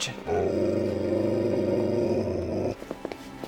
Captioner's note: dog growls